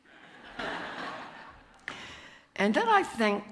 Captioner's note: audience chuckles